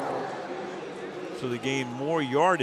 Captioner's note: pa announcement